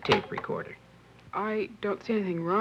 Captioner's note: recorder button clicks